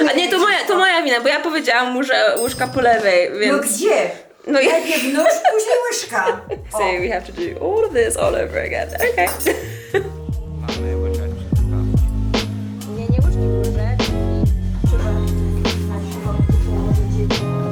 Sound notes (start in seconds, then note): 0.1 speaking in Polish; 3.9 grandma speaking in Polish; 10.4 upbeat music